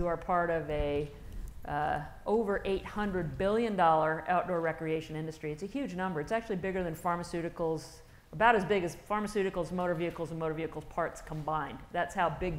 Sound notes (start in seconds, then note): none